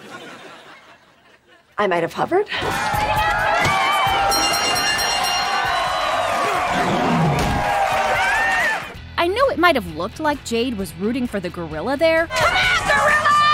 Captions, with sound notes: I might have hovered. [cheering] [dinging] [cheering] I know it might have looked like Jade was rooting for the gorilla there... C'mon gorilla!